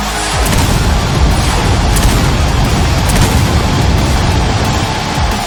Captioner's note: crowd cheering; explosions booming